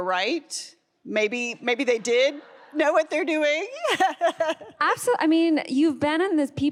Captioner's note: laughs